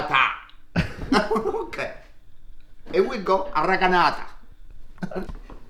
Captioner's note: laughing